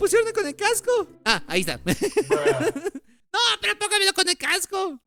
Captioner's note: laughs